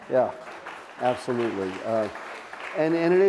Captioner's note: audience clapping